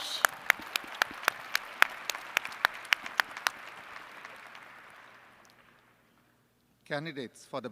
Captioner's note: applause